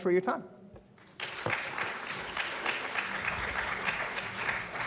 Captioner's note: applause